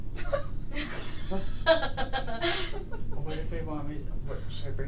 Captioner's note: laughing